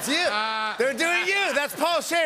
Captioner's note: laughs